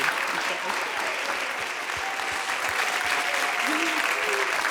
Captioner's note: audience cheers